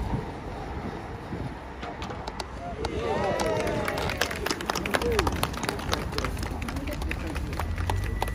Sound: cheers

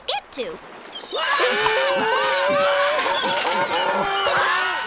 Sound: screaming

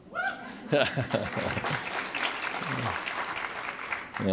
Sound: applause

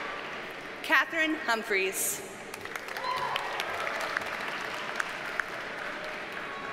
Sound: audience cheers and applauds

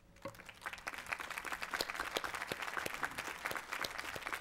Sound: applause

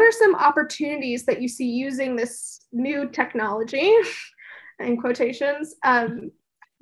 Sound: laugh

